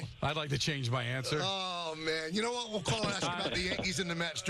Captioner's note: laughter